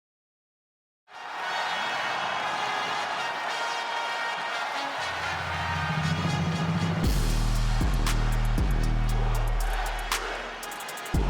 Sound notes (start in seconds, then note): 1.1 crowd cheering; 1.3 dramatic music; 7.3 dramatic beat music